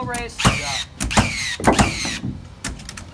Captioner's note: nail Gun